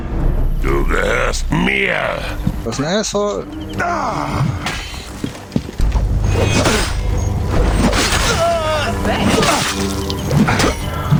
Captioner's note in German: stöhnen